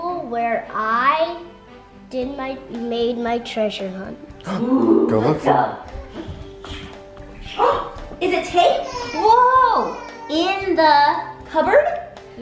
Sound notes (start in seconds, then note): 8.8 gasps